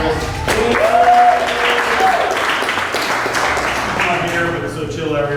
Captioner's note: applause